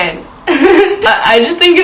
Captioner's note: laughs